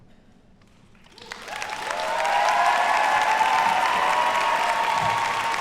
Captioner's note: audience cheers and applauds